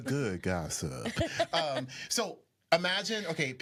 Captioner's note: laughs